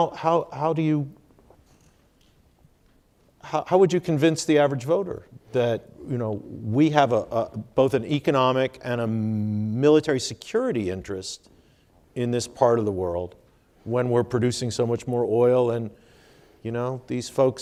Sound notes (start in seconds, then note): none